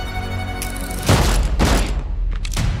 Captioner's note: two gunshots